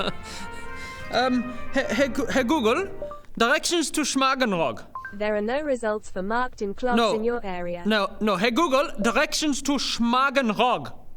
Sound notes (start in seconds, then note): 2.9 bing-bong